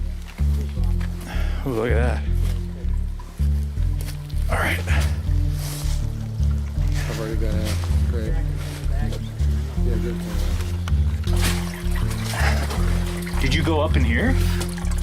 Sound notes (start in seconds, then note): 11.7 soft techno bass music; 11.7 water sloshing